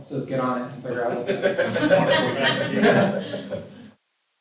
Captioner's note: laughter